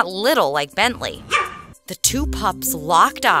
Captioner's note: barking